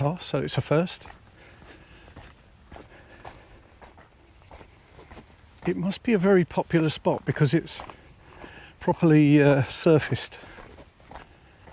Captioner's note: footsteps